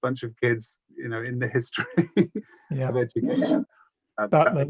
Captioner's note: laughs